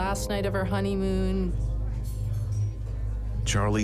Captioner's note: people chatting